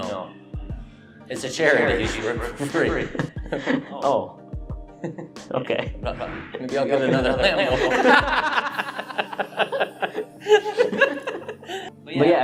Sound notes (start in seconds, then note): 4.2 laughs; 7.0 laughter